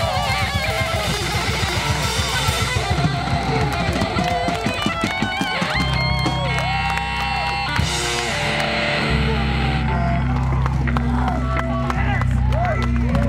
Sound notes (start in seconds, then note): 3.1 audience cheers and applauds